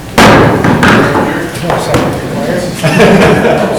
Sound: gavel bangs; laughing

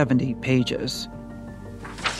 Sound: page flipping

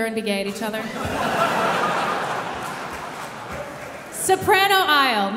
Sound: audience laughing

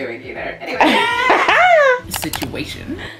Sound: cackles

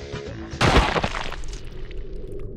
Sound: gibsplat

